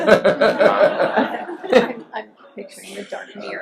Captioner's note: laughs